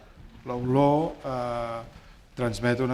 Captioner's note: speaking spanish